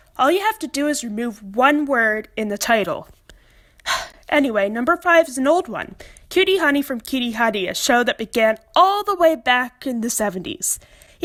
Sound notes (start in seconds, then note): 3.8 sigh